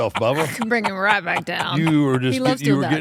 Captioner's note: laugh